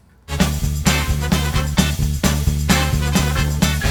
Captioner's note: laughs